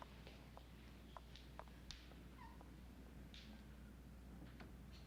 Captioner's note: footsteps tapping